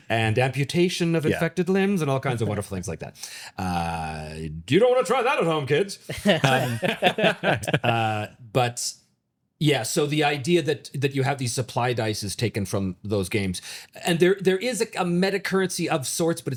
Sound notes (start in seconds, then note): 8.3 both laughing